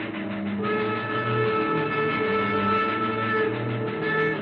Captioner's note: train chugging and chooing